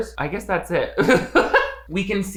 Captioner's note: laughing